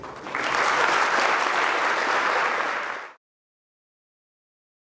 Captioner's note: students applaud